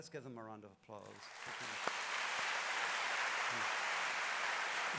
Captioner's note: applause